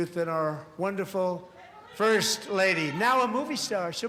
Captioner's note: cheers and applause